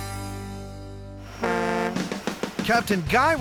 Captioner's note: boat horn